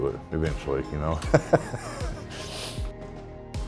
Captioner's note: laughter